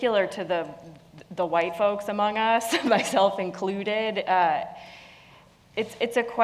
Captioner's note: laugh